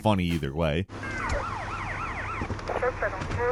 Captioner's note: police siren blaring